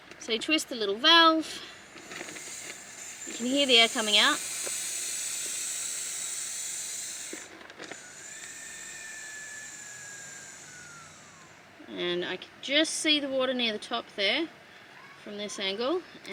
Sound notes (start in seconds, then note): 2.0 air hisses; 4.6 air continues to hiss and slowly resolves to a breathy whistle